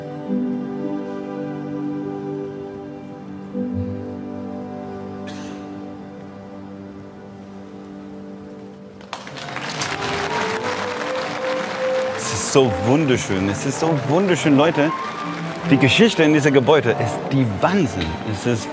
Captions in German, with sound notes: (Musik verklingt.) (Applaus) Es ist so wunderschön. Es ist so wunderschön. Leute, die Geschichte in diesem Gebäude ist der Wahnsinn.